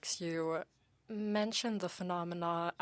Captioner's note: speaking French